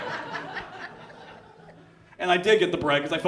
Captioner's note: audience laughs